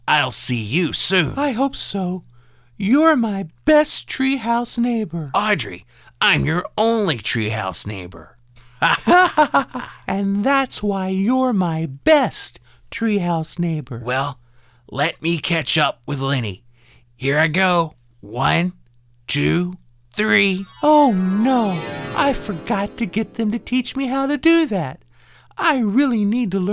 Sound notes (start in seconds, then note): 8.8 laughing together